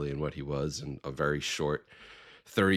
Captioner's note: none